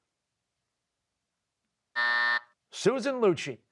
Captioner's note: buzzer